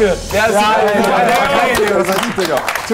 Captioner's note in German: Stimmengewirr